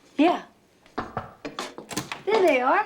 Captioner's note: knocking on door